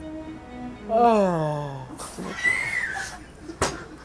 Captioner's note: ??: Yawn